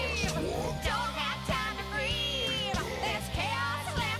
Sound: deep voice; deep voice

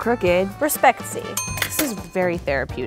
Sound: bell dings

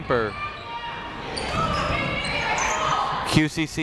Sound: people shouting in the crowd

